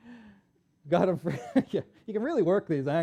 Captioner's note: laughs